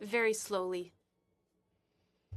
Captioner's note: speaking French